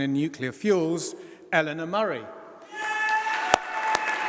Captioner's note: applause